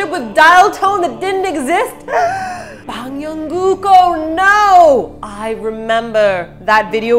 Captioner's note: gasps